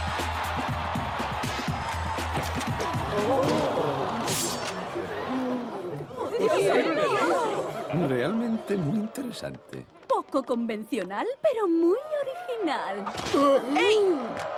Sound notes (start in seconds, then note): 0.1 crowd cheering; 4.5 crowd gasping